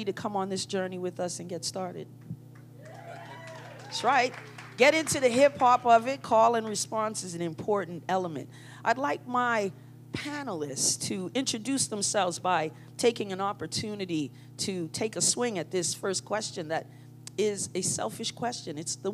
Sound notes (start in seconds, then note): 2.8 cheering